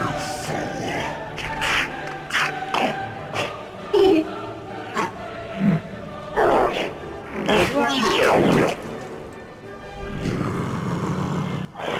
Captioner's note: gargles to death